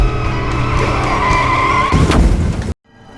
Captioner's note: loud crash